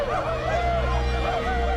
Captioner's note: all howling